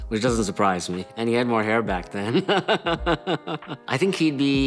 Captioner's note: laughs